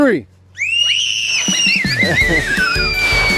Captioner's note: girls scream; lighthearted music